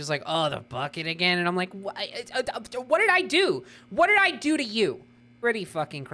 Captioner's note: stammering